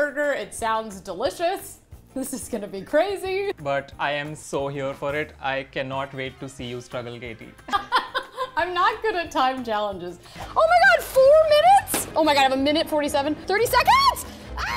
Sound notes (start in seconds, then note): 7.6 laughs; 14.5 she screams